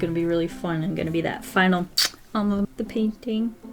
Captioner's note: smooch